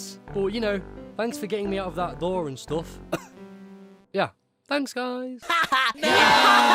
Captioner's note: cough